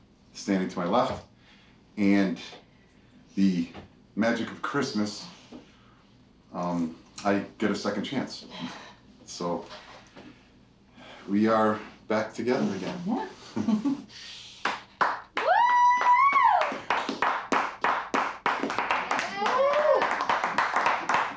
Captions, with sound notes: standing to my left and the magic of Christmas, I get a second chance. So we are back together again. (people applauding and cheering)